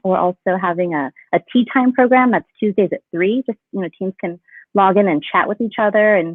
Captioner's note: none